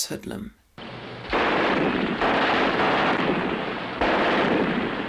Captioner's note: machine gun firing